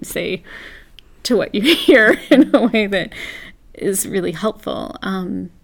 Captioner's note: laugh